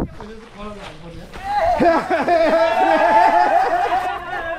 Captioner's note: excited laughter